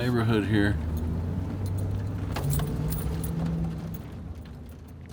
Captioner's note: truck engine roaring